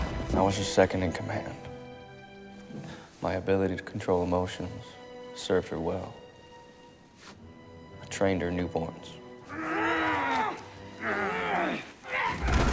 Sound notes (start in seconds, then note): 9.4 both grunting